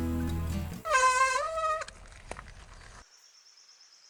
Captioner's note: squeaky brake sound